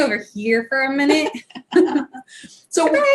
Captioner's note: laughs